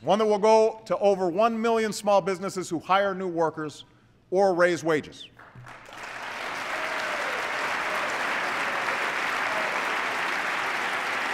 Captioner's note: applause